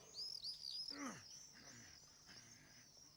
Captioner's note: grunting